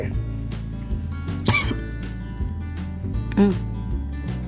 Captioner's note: coughs